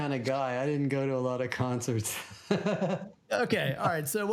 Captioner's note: laughs